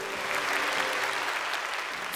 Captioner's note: applause